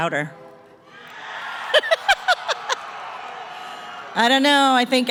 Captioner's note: cheering